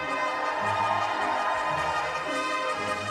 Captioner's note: cheers and applause